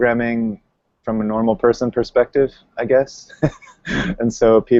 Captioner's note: chuckles